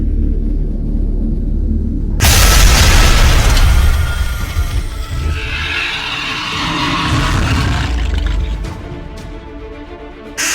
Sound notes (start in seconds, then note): 2.2 ground crashes; 5.1 beast shrieks; 8.8 intense music